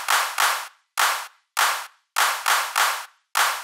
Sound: claps, claps, claps, claps, claps

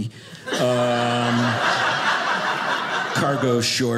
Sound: audience laughing

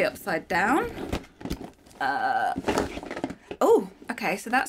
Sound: box clattering

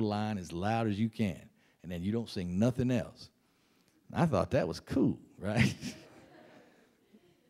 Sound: laughs

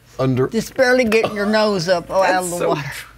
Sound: laughs

